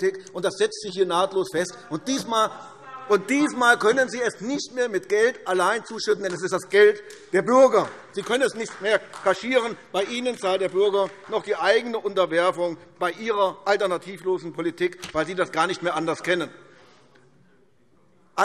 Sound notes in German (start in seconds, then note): 2.2 Zuruf